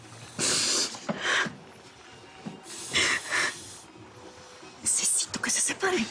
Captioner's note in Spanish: Sollozos